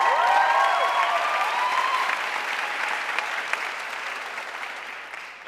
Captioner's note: audience cheering and applauding